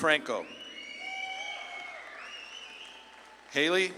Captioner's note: audience claps and cheers